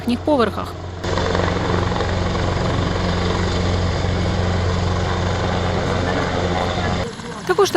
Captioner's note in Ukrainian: звук вертольоту